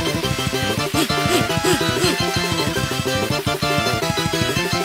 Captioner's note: panting